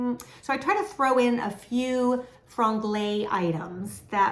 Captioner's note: speaking in foreign language